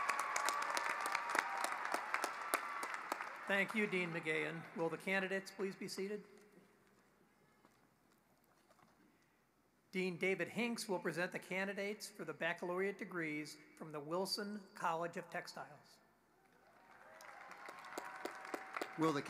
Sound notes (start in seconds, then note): 2.8 applause